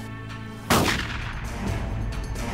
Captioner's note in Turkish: silah sesi